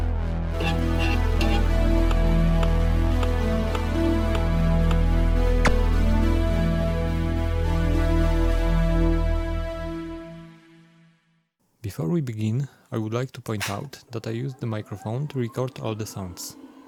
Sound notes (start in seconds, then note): 0.0 mysterious music; 0.6 floppy drive reads rusty bits